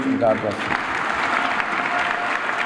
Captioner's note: applause